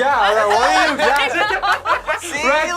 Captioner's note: group laughs